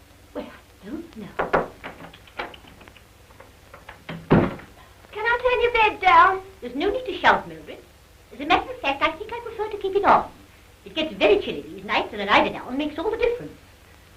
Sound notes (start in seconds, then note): 1.0 tutting